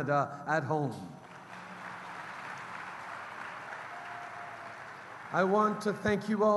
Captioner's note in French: Applaudissements